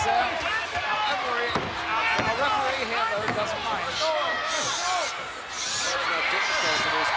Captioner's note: breathing deeply